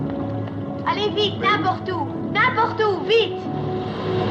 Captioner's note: speaking French